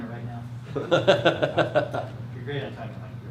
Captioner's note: laughs